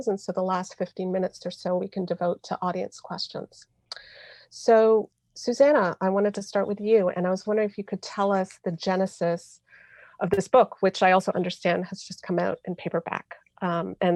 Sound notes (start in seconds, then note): none